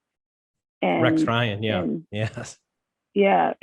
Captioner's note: chuckles